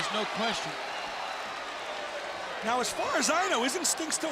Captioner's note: crowd chatter